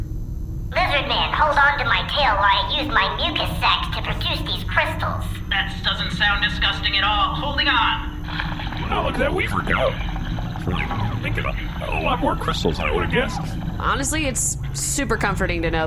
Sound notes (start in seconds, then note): 9.0 crystal-production noises, much like a fleshy sewing machine